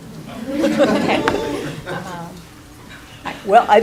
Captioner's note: laughing